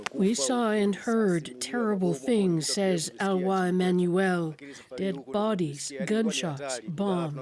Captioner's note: speaking alternate language